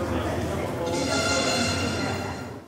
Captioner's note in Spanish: Sonido de notificación